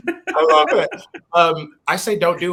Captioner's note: laughs